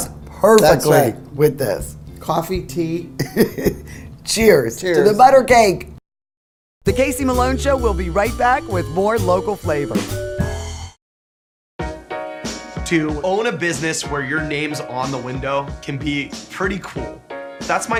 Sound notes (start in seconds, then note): 3.2 laughs; 11.8 upbeat music